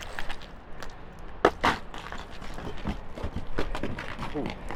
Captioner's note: rocks Falling